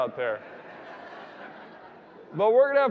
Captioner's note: audience laughing